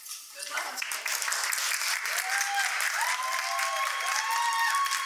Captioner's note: applause and cheers